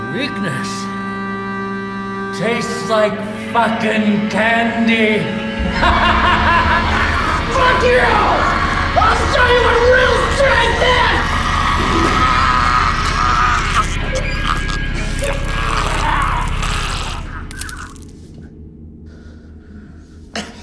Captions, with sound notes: Weakness tastes like fucking candy. (laughs) (Otis choking) - Fuck you! I'll show you what real strength is! (neck snapping)